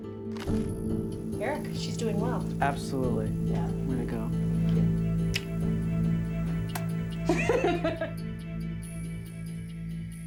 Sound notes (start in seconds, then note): 6.6 kiss sound; 7.2 laughter